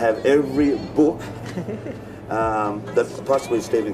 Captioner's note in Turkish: tatlı tatlı gülüyor